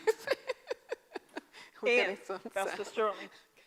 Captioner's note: laughter